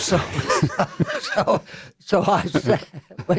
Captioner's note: laughter